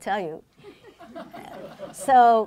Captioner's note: laughing